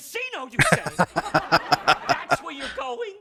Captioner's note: laughing